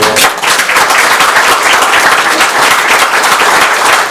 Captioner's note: crowd clapping